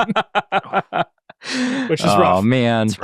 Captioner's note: laughs